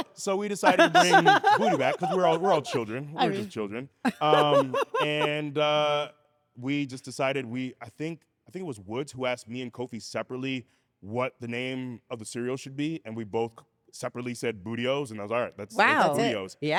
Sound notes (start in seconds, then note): 4.1 laugh